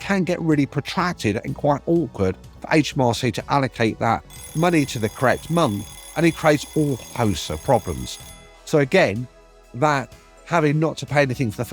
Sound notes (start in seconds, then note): 4.3 alarm clock ringing